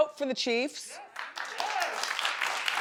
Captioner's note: audience claps